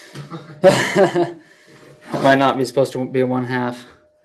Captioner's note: laughs